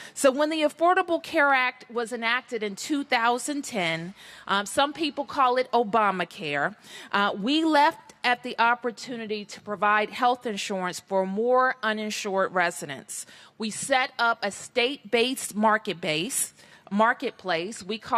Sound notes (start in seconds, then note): none